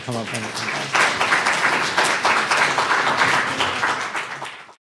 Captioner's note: audience applauds